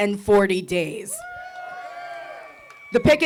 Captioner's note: audience cheering